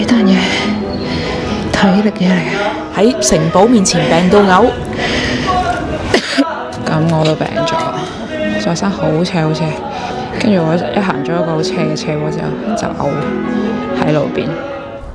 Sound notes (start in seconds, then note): 6.1 coughing